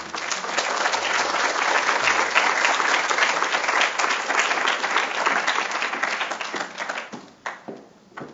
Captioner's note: applause